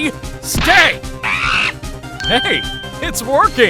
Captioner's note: Money chatters!